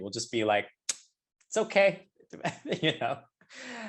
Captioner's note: laughs